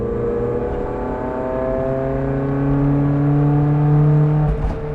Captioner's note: engine roars